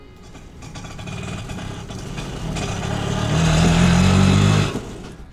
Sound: sound of an auto

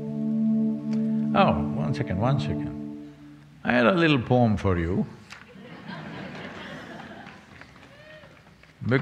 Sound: laughter

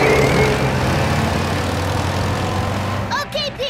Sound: engine revving

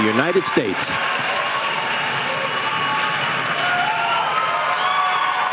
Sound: audience cheering

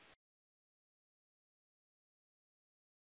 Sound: silence

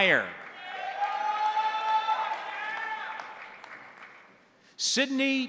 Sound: crowd applauding; crowd cheering

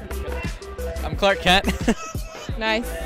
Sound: laughs

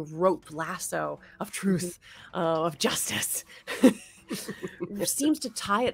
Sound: chuckles

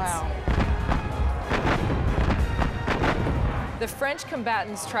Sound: artillery fire

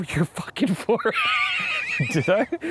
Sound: laughs

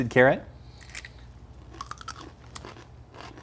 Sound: crunching

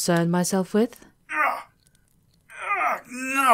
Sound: the assassin cries out as nails sink into his body

